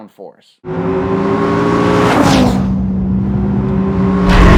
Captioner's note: engine car roaring